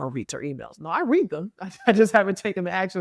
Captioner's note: chuckles